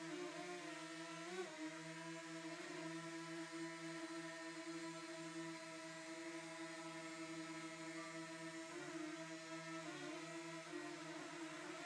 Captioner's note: drone flying